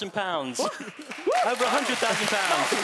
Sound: cheering

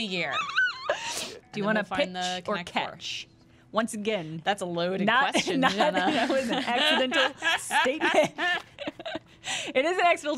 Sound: laughter

